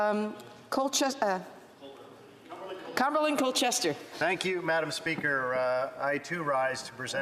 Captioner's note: speaking French